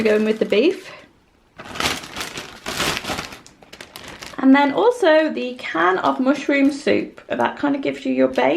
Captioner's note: bag rustling